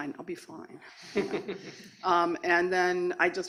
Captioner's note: laughter